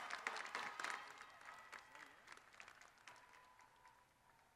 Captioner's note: crowd cheers